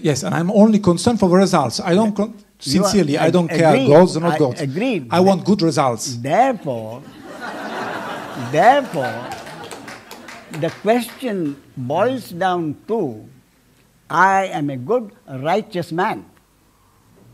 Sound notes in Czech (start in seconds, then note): 7.0 smích